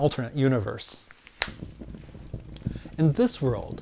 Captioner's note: finger snap